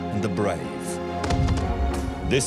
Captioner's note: gunfire